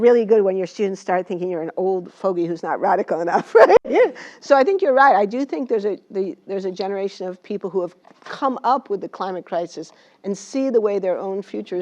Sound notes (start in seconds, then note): 3.4 laugh